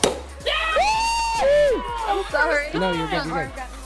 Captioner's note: loud cheering